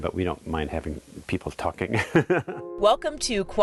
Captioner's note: chuckles loudly